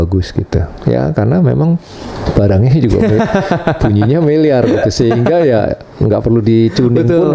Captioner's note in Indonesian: tertawa